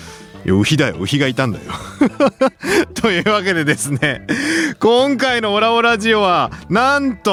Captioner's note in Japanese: 笑い